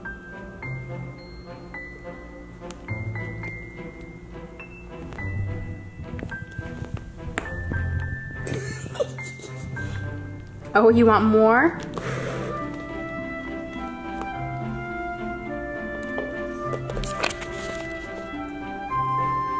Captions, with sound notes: (laughing) Oh, you want more?